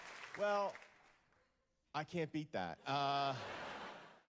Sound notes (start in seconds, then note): 0.0 applause; 2.8 laughter